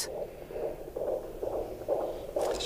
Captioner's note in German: Leises Herzklopfen